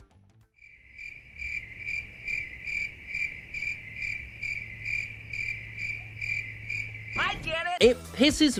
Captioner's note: crickets